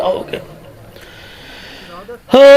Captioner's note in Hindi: गहरी सांस लेने की आवाज़